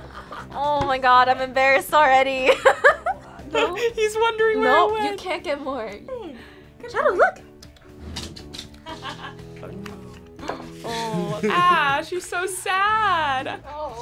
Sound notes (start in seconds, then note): 2.7 laughs; 8.9 laughs